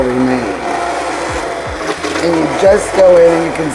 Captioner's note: blender whirring